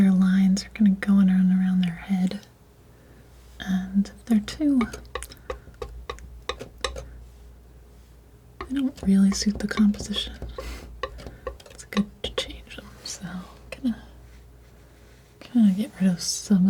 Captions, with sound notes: lines are gonna go on around their head and if they're too [tapping] they don't really suit the composition it's good to change them so kinda get rid of some